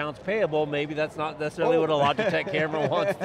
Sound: laughs

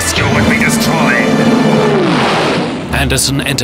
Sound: rocket roaring

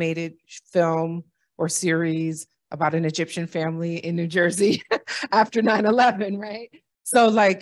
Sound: laughter

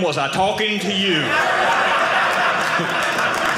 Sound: audience laughing

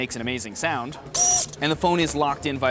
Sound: computer chiming

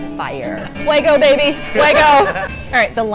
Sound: laughing in background

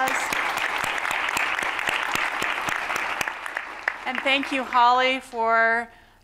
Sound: applause

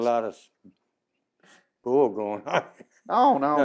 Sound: laughs

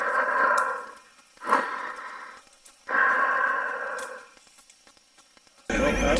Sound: weird breathing sound

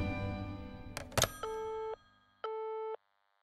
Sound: call end tone

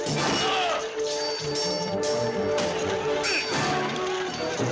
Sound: yelling

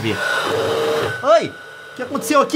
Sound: scared scream

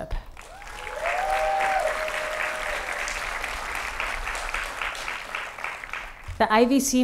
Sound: applause

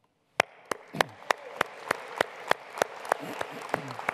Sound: audience applauds

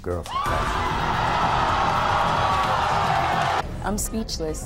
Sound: audience yells and boos

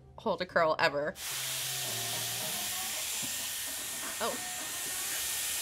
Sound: air tool whooshing

